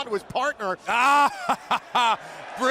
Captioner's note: laughs